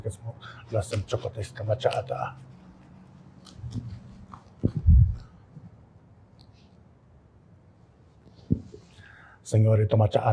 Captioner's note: chanting; non-english speech